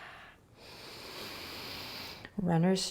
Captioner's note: exhaling; inhaling